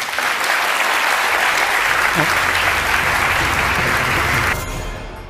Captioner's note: applause